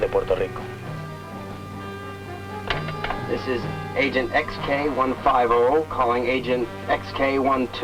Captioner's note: speaking spanish